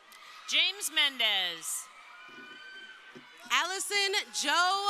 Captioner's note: crowd cheering